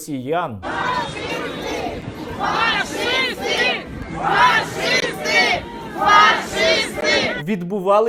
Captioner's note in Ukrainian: скандують "Фашисти! Фашисти!"